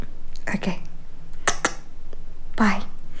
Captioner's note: kisses